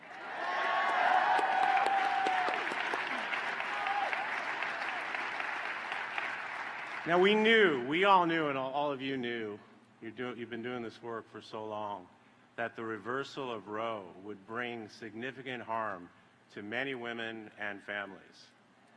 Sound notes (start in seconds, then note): 8.1 applause